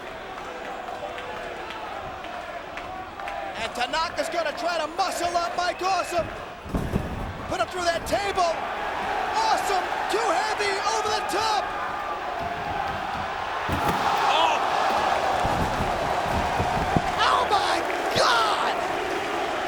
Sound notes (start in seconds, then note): 0.0 crowd clapping; 13.6 Tanaka thuds; 15.6 crowd exclaiming; 19.4 crowd chanting